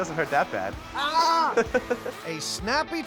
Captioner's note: laughing